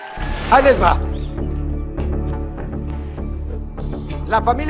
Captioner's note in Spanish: Gritos